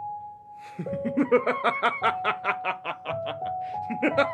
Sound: laughter

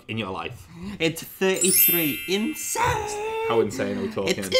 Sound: chimes; sing-song

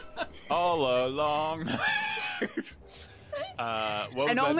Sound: laughing; laughs

